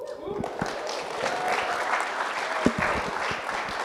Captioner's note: audience applauding